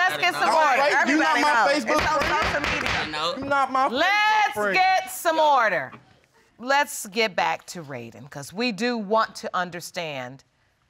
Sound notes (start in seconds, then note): 2.2 all clamoring; 2.2 gavel banging